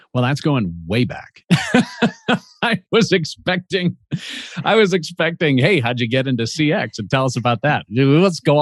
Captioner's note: laughs